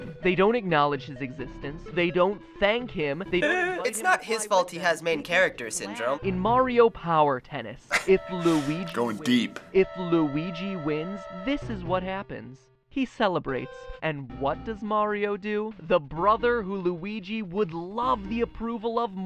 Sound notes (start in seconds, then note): 7.8 scoffing